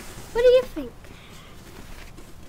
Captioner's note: none